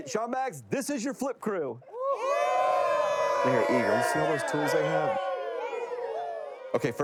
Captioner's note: indistinct chatters; crew shouting